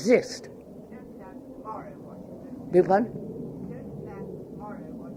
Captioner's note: sound of aeroplane